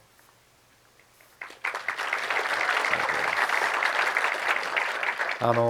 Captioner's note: audience applause